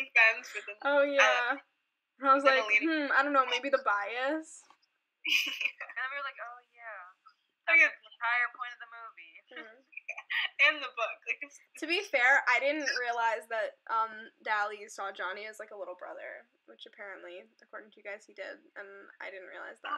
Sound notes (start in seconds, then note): 5.3 laughing